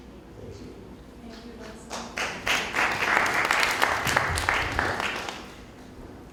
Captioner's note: applause